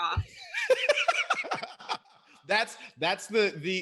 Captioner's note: laughs